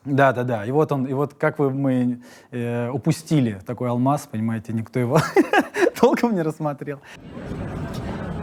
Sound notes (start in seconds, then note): 5.2 laughing